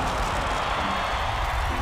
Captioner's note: cheering